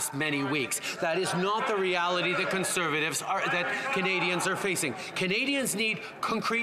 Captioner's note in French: voix de l'interprète